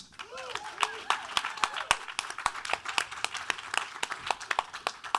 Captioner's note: audience applauding